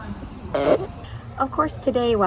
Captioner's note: snorts